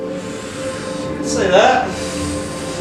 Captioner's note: blows